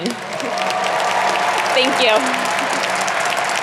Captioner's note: audience applauding